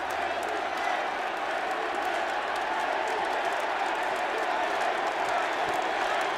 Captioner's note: crowd cheers, chants "HBK"